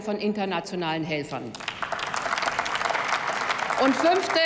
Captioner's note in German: Applaus